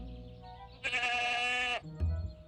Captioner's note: bleating